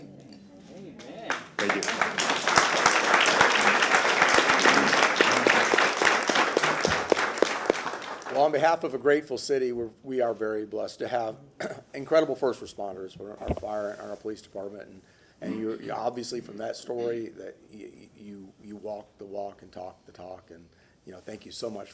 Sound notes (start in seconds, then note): 5.4 applause